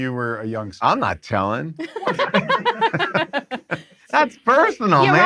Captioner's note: group laughs